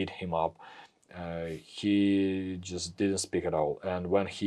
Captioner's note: none